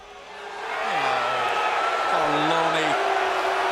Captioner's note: crowd cheering